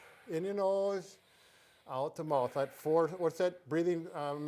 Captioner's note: both inhale and exhale; breaths